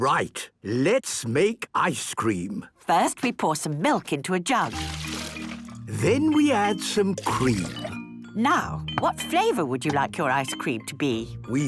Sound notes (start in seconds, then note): none